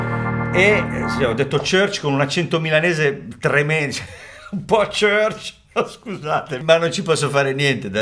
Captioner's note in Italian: risate